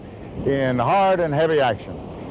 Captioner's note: voiceover